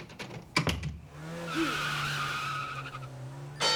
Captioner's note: vehicle door closes, vehicle speeds away; bell clangs